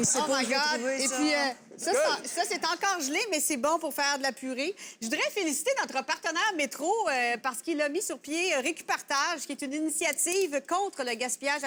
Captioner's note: speaking in french